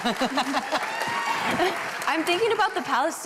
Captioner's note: applause